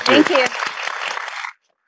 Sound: applauses

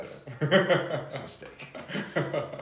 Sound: laughs

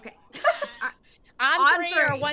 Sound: players chuckling

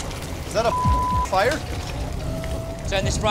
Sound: beeping

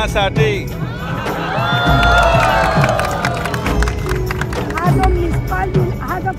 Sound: cheers/Applause

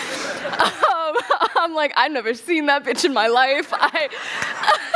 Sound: laughter

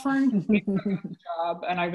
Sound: audio warps

